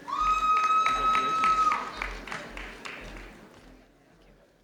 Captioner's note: audience cheering